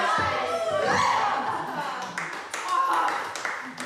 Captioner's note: yelps; applause